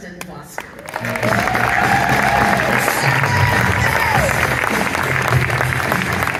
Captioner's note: audience cheers and claps; upbeat rock music